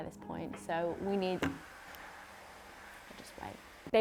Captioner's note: hand dryer blows